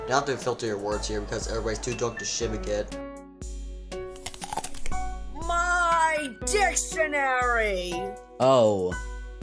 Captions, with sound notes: You don't have to filter your words because everyone's too drunk to shive a git. [CRUNCH] -My dictionary! -Oh.